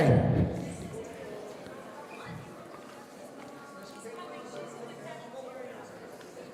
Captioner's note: people in the audience conversing